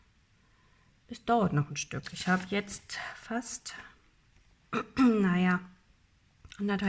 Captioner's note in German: räuspern; husten